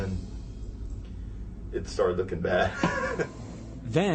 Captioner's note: laughs